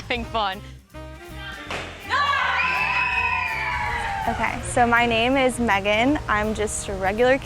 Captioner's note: cheers